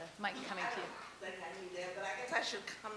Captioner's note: voiceover